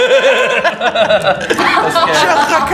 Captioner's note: laughs